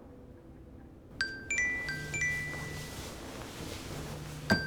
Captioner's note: alarm